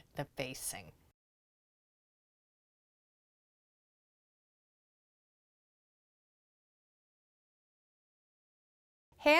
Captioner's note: no Sound Present